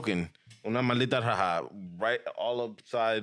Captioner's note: speaking In Foreign Language